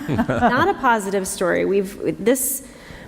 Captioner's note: laughter